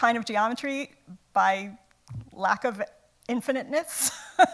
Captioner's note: laughs